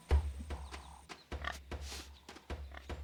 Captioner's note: grunting